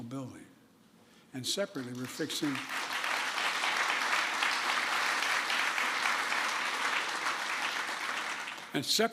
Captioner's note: applause